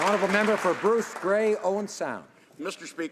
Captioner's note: applause